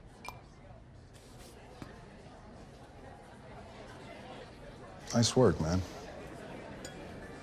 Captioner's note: crowd chatter